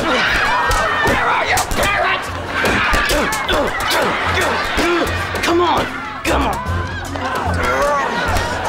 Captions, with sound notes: Where are your parents?! [grunting] Come on. Come on. [grunting]